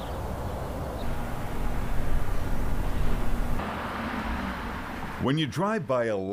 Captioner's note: birds chirping